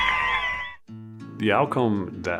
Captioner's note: spectators cheering